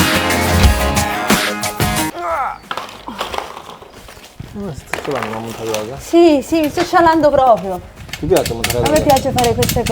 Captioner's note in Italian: sbuffare